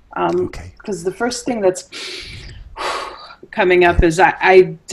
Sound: sighs

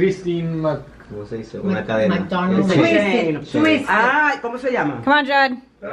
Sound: people speaking foreign language in background

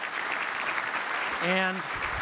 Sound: applause

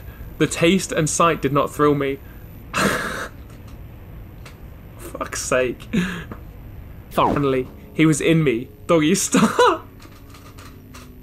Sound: laughter

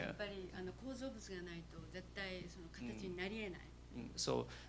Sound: non-english speech

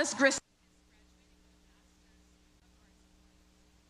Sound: audio cuts out

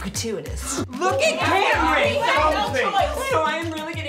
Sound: everyone shouting

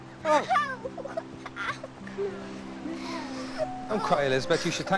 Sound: girl whimpering

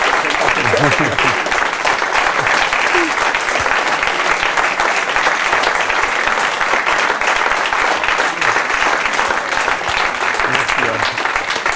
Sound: applause

